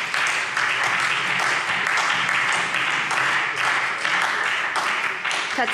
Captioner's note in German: Beifall SPD und Freie Demokraten